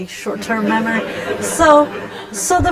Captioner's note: laughter